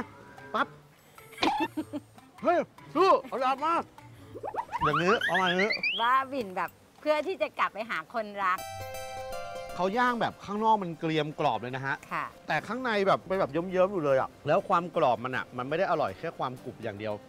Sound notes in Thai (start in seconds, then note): 1.3 เสียงหัวเราะ